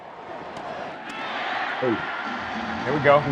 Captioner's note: crowd cheering